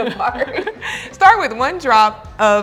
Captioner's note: both laugh